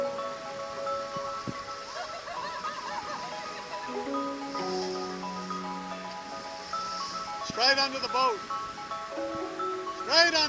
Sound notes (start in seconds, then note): 1.8 laughs; 5.1 waves crashing